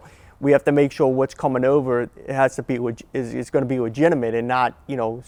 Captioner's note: none